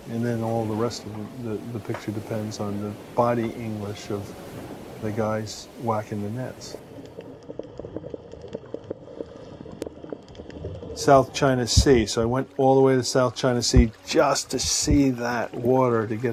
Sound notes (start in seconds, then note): 7.7 water bubbling